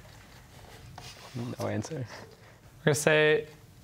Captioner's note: quietly